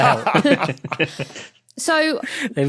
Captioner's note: group laughing